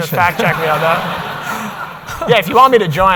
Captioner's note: audience laughs